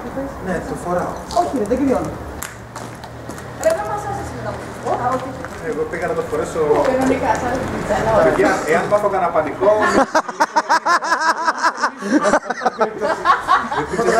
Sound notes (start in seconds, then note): 9.7 laughs